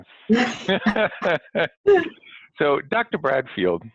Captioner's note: laughter